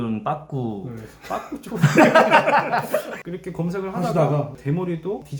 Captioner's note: laughing